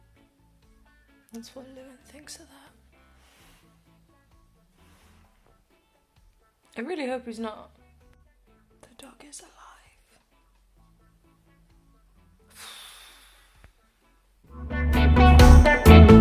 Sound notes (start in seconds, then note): 12.5 deep exhale